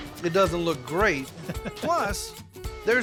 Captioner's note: chuckling